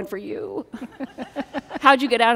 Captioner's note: everyone chuckles